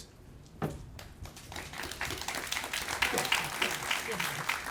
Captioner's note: applauding